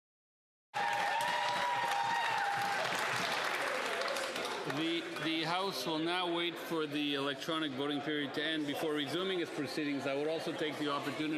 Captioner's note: cheering